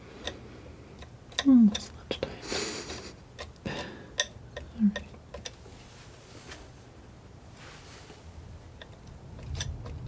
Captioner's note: scratching